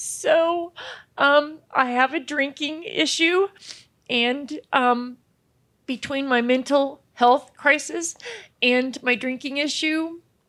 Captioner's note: sniffles